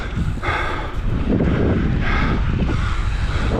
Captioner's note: wind blows